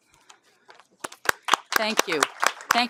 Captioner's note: applause